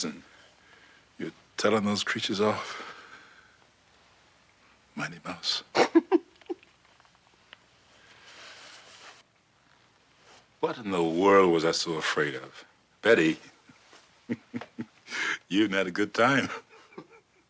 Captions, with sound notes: and you're telling those creatures off. Mighty Mouse. [laughs] What in the world was I so afraid of? [laughing], you even had a good time.